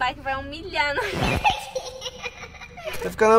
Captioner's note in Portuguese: Risos